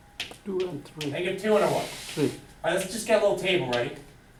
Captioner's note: voiceover